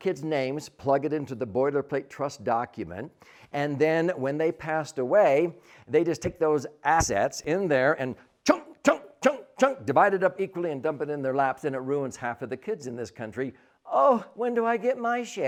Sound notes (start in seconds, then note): 7.0 chop, Chop, chop